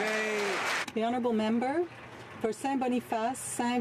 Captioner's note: some Applause